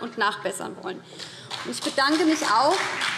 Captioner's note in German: Beifall BÜNDNIS 90/DIE GRÜNEN und CDU